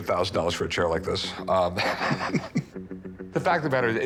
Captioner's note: laughs